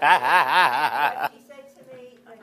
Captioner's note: laughing